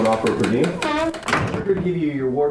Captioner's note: door shuts